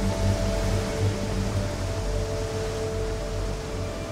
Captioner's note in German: Windgeräusche